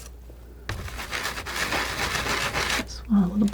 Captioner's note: scratching